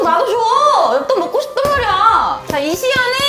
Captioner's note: angry punching